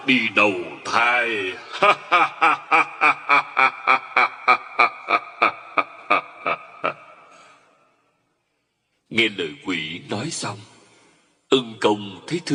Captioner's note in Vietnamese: Tiếng cười